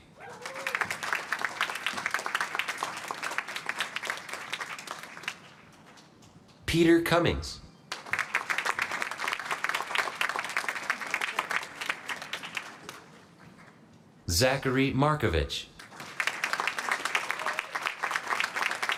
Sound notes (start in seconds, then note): 0.0 applause; 7.8 applause; 15.7 applause